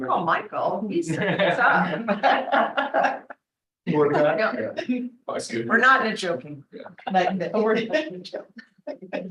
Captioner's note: laughter